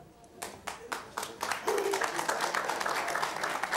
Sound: applause

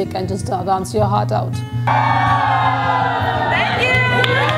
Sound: chrowd Cheers

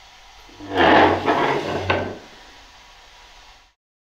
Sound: chair whirring

